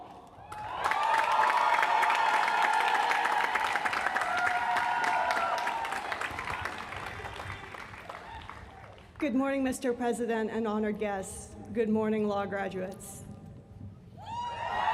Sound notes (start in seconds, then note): 4.1 applause